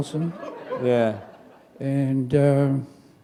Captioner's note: chuckle